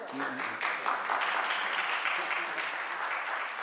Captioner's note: applause